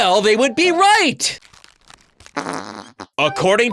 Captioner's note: gross sound effects